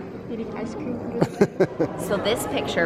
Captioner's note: laughing